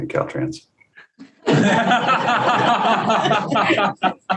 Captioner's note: group laughs